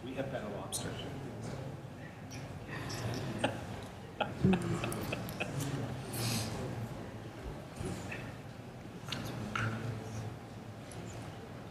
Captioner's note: laughter